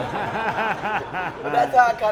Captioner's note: laughter